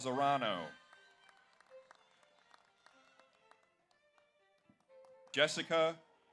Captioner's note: audience cheers; audience applauds